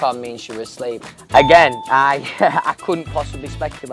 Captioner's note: bell chime